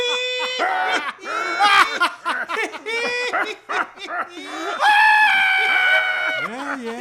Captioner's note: weirder laughing; all laughing except Eagles; even weirder laughing